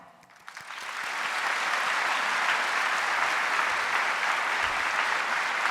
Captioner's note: audience applauding